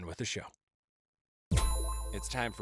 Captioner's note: pinging